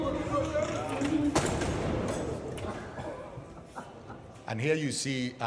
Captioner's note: door slams